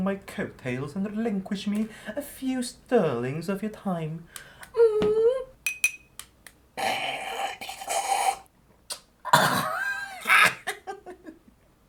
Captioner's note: bombastic tea slurp